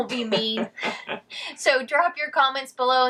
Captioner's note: chuckling